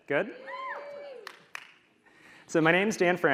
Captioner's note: audience cheering